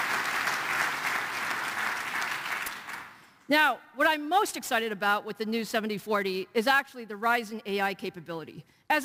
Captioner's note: applause